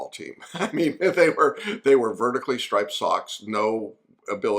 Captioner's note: laughs